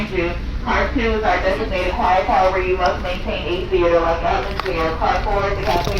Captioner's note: female announcement